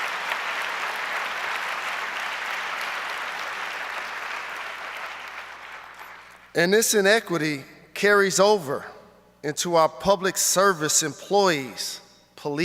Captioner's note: applause